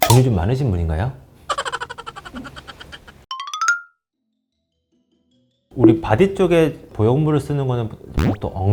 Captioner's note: laughs